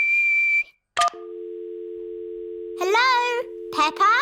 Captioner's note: whistles; dial tone beeping